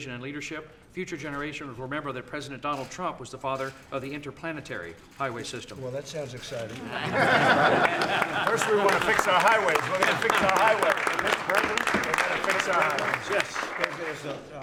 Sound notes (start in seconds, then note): 6.7 laughter; 11.6 applause